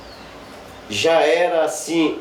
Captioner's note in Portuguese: pássaros cantando